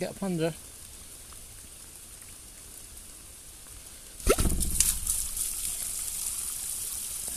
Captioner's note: pop